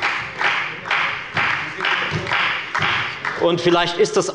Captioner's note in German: Beifall bei der FDP und bei Abgeordneten der SPD